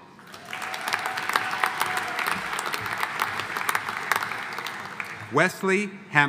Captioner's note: audience applauding; audience cheering